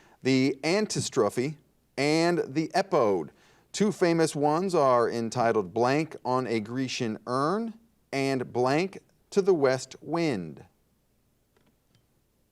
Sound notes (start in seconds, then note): none